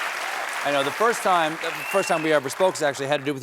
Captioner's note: cheers and applause